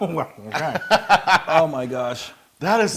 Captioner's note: laugh